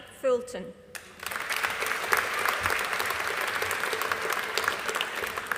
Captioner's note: audience applauding